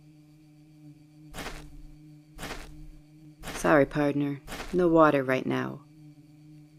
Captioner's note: footsteps